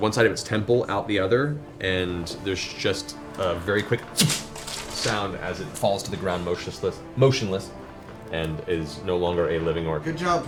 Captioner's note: shpt